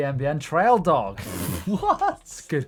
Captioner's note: laughs